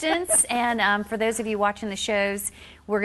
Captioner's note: laughing